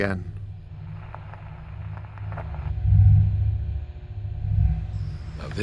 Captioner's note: radio crackles